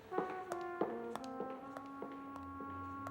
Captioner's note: footsteps receding